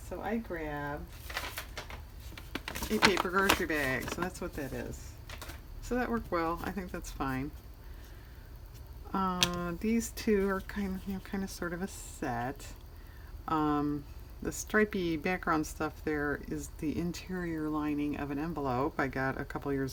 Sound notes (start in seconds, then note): none